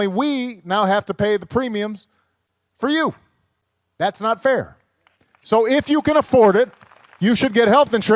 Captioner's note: applause